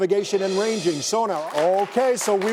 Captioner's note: crowd applauds